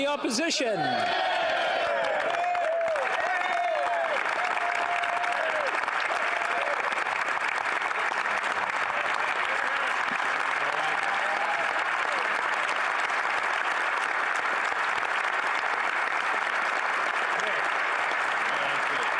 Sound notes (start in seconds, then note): 1.3 speaking French; 4.2 some Applause